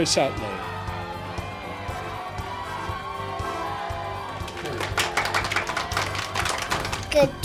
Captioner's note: cheers